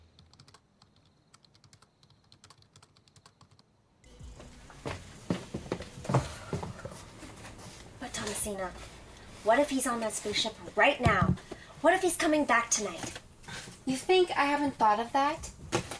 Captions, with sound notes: [typing] [quick footsteps] -But Thomasina, what if he's on that spaceship right now? What if he's coming back tonight? -[scoffs] You think I haven't thought of that?